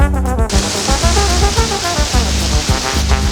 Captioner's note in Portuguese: Som de xafariz